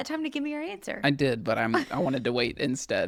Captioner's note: laughs